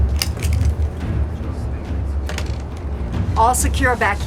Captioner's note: fastening belt